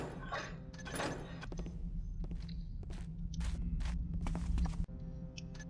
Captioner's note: footsteps